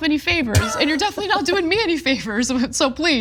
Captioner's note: laugh